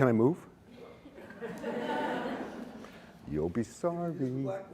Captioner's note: laughter